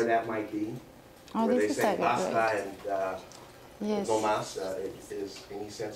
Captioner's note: spanish